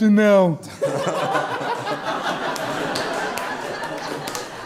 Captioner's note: audience Laughter